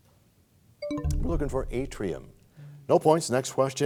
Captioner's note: bell chimes, time expires